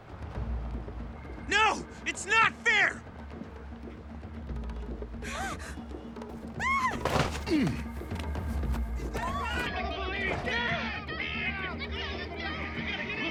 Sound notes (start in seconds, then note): 5.2 gasps; 6.5 grunts; 6.6 woman screams